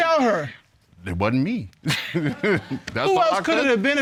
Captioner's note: laughs